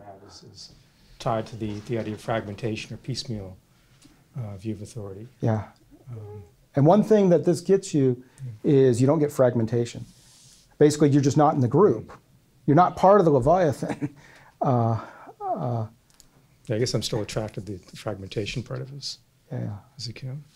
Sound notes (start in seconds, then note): 16.8 voiceover